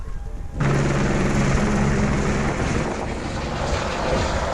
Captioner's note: wind blows; engine running